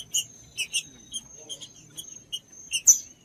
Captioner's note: trinca ferro cantando